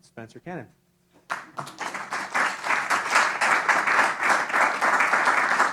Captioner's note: applause